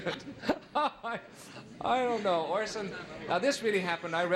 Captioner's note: laughing